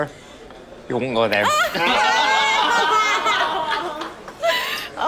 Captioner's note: laughter